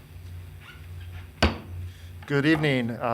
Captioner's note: gavel bangs